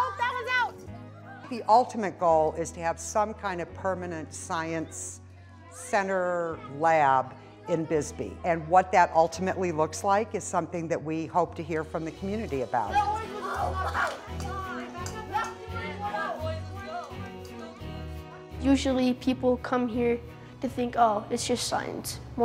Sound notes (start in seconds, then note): 12.9 children laughing